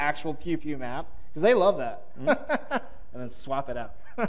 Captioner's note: laughing